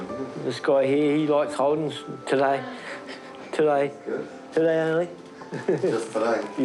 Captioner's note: chuckles